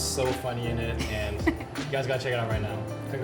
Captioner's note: Megan chuckles